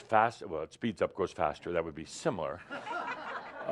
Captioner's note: laughter